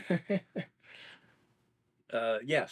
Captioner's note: laughs